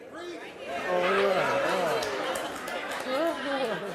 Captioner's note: laughs